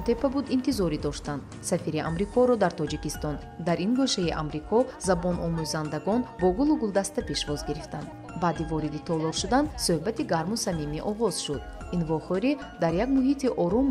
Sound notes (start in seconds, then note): 6.7 speaking in tajik; 11.6 journalist narrating in tajik